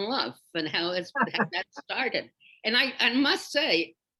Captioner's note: Bob laughs